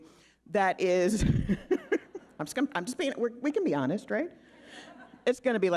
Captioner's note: laughing